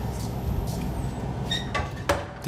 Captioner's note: squeaking, clacking